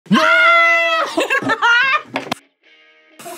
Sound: both laugh

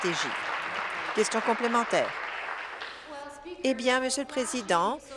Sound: applause

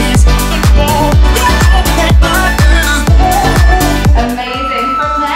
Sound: countdown timer beeping

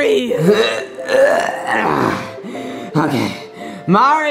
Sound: Yoshi grunting

